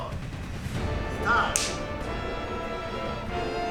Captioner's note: film slate claps